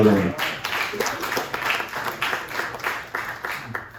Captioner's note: applause